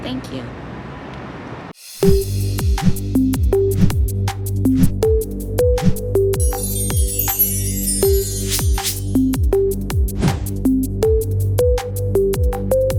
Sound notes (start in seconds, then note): 1.9 intriguing music; 6.4 chimes twinkling; 8.5 boxes whooshing; 10.2 logos whoosh